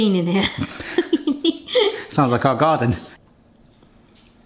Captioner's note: both laughing